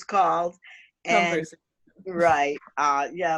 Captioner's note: murmurs